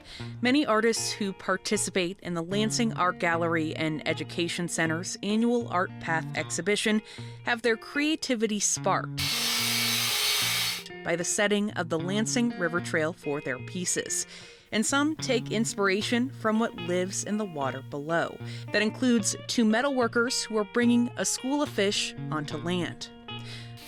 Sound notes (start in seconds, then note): 9.2 grinding Noises